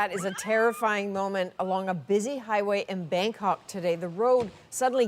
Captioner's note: screaming